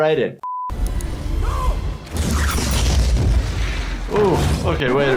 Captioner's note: fireball swooshing